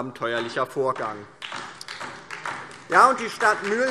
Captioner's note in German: Beifall DIE LINKE